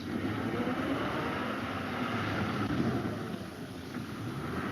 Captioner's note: car engine revs